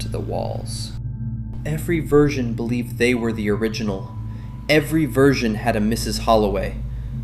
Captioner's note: terrified